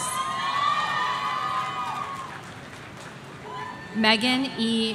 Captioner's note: audience cheering